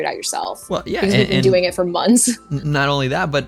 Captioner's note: laughs